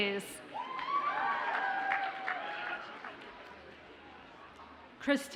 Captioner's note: audience cheers and applauds